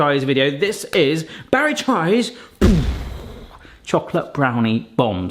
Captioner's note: mimics explosion